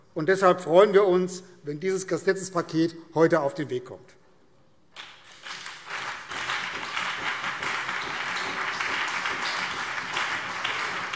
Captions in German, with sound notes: Deshalb freuen wir uns, wenn dieses Gesetzespaket heute auf den Weg kommt. [Beifall BÜNDNIS 90/DIE GRÜNEN und CDU]